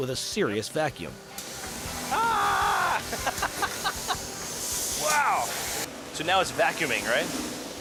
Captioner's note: laughs